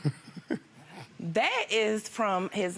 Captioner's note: chuckles